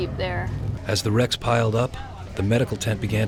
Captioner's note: voiceover